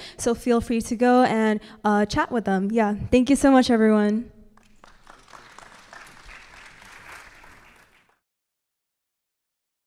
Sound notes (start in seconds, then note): 4.5 applause